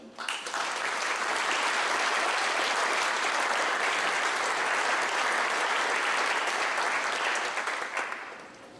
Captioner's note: clapping